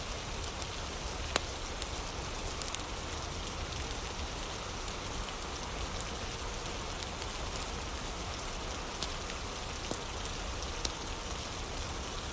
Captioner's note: fire crackling; fire crackling